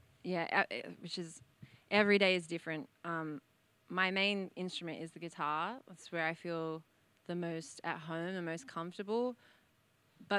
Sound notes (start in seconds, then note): none